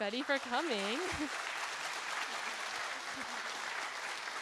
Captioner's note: audience applauding